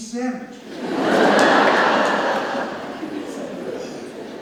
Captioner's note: audience laughs